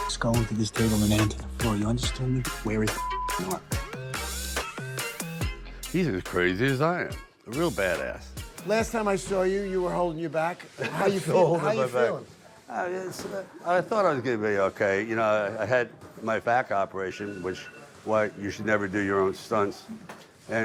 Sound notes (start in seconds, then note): 0.0 beep; 2.9 beep; 10.7 chuckles